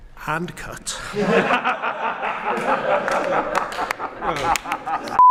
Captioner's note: raucous laughter